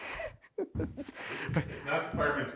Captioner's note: laughing